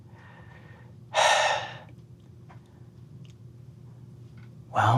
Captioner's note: sighs